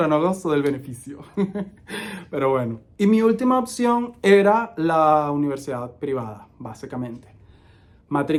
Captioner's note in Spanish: risas